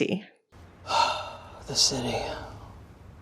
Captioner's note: sigh